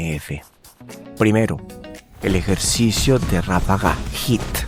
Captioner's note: burst